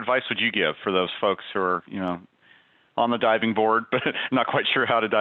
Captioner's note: giggles